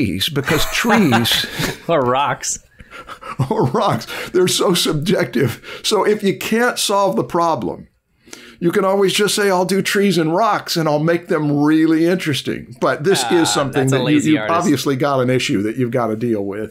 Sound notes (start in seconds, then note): 0.4 laughter